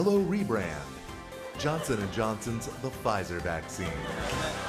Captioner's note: laughter; applause